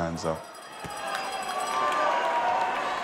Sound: bell rings

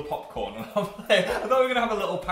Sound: laughs

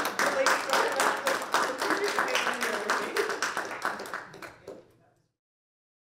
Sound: applause

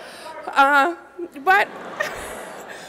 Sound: laughter

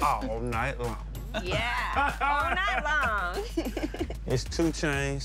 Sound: laughing

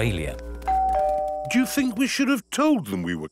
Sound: doorbell rings

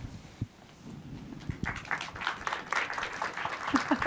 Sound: applause

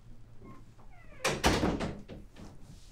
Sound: door closes

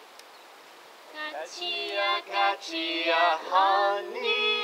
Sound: chanting in Korean

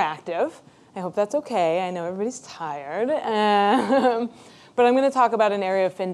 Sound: laughs

